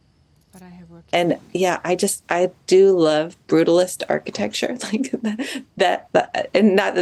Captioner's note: chuckles